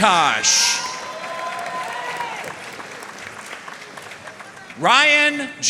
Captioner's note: audience cheering and applauding